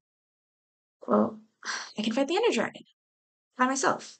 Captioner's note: exhale